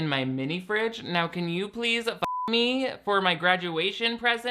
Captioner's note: beep